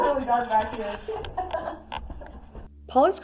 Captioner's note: laughs